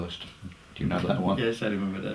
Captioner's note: laugh